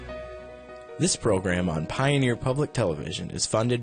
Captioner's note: voiceover